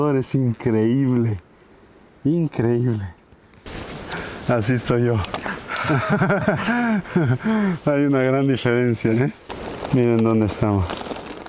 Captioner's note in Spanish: risas